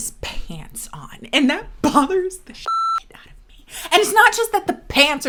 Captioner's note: beep